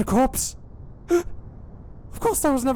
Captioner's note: gasp